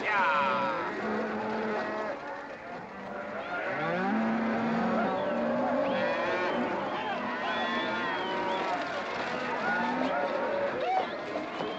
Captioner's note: mooing & whistling